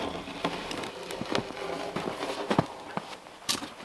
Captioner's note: log scraping